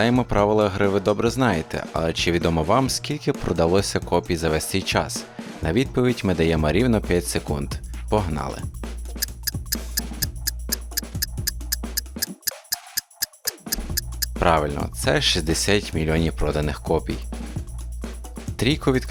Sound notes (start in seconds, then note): 9.2 tick-tock-tick-tock